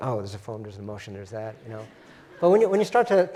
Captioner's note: laugh